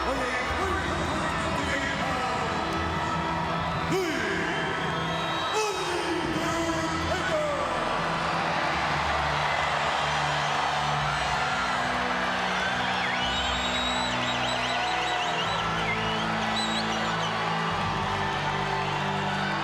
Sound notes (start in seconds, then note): 8.3 crowd cheers; 15.3 solemn funereal music continues